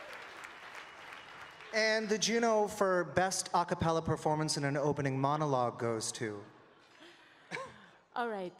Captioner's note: cheering and Applause